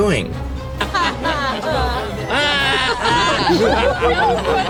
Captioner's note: crowd keeps mocking